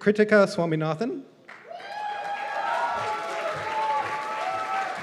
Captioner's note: cheers and applause